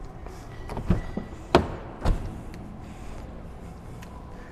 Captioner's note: door opens